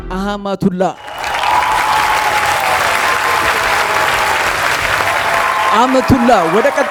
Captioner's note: applause